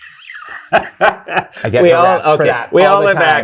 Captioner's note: guy laughs